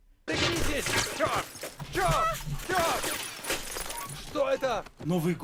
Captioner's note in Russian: выстрелы и крики